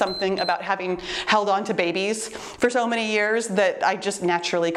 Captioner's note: timer beeps